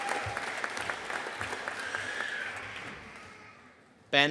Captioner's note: audience cheering and applauding; child crying